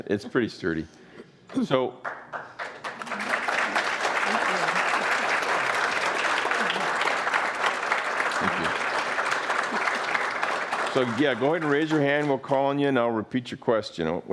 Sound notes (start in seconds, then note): 2.1 audience applauding